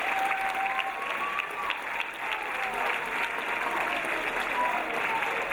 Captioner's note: audience bellowing encouragement